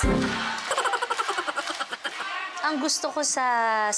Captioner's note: laughing sfx playing